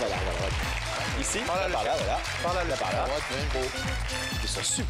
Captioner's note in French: Applaudissements